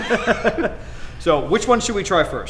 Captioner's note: laughs